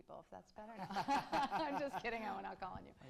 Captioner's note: laughs